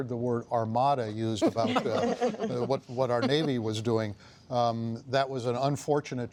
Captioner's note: laughter